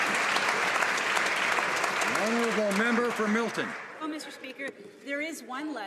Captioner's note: some Applause